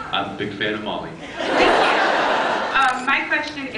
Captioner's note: laughs